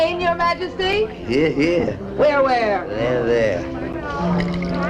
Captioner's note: tapping On Glasses